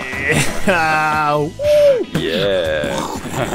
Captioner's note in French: cri de victoire, rires